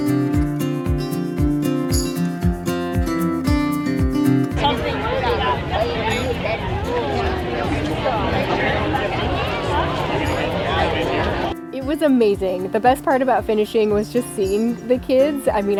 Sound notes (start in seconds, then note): 0.1 upbeat music; 6.5 people chattering